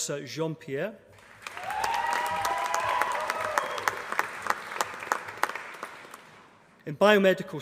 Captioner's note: applause